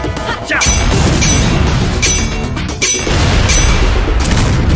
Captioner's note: both grunting; explosions booming